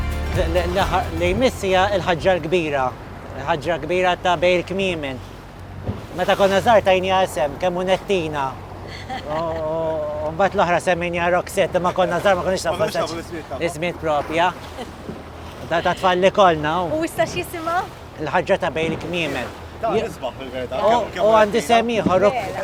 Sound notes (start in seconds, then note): 8.8 giggles; 15.7 giggles